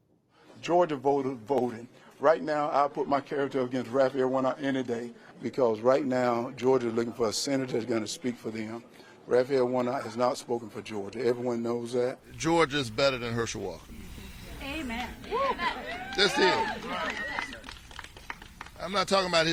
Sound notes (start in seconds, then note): 14.5 cheering and applause; 17.2 applause